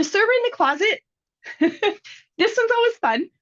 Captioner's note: laughing